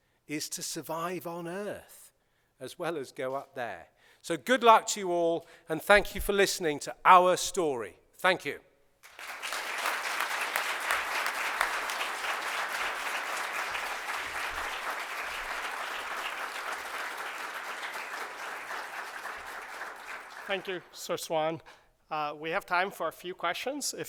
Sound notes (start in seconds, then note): 9.2 applause